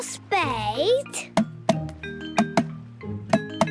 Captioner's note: tapping